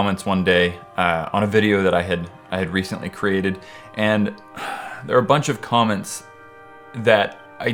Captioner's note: sigh